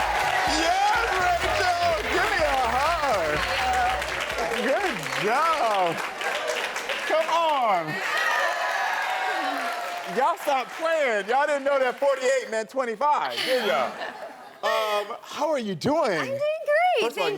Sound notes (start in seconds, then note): 8.1 audience cheering